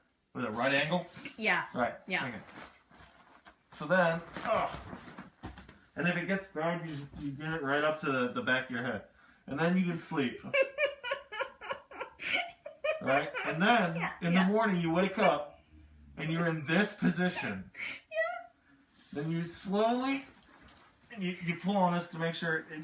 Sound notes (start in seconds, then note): 10.4 laugh